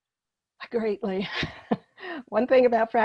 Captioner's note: laughing